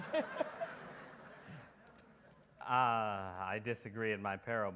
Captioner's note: audience laughs